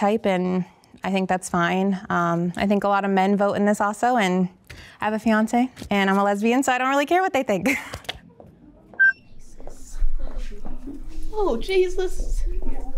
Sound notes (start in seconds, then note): 7.6 laughs; 9.0 timer beeping